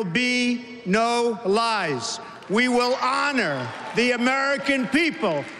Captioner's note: crowd booing